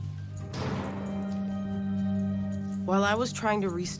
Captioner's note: clanging